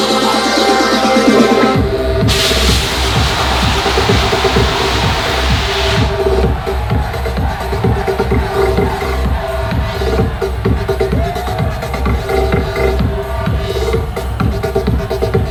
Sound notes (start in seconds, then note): 2.6 crowd cheering